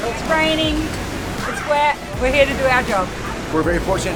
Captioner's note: none